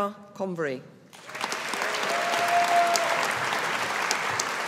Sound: audience applauding

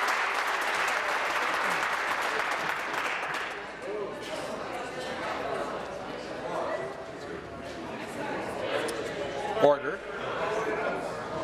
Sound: applause

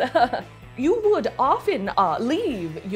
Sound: laughs

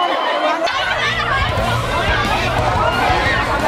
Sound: people screaming indistinctly

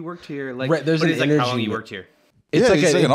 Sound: flatly

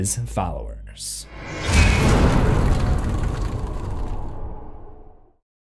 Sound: impact

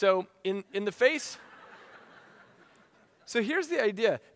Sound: audience laughing

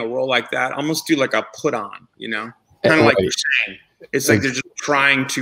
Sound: murmurs

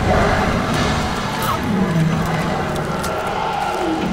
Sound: demon roars

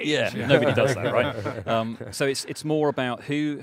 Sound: men laugh

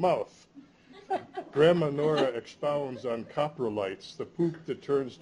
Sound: laughter

